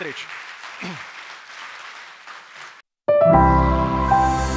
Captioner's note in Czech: Potlesk